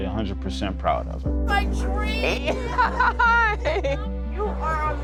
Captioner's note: laughs